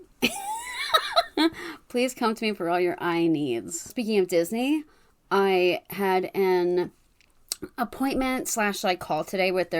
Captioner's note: laughs